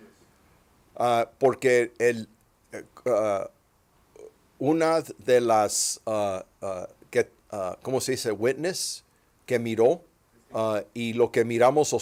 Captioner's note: speaking Spanish